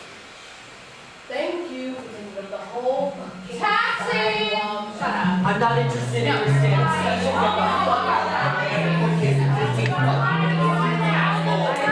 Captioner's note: the sounds of new york